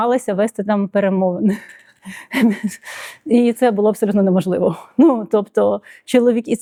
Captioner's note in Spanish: risas